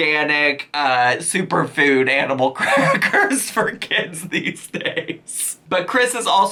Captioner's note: laughs